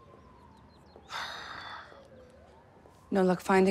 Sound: sighs

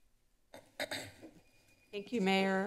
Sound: clears throat

